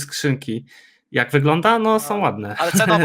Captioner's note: laughs